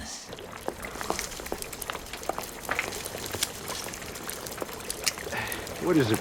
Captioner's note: birds chirping